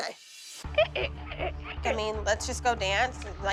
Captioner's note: squeaking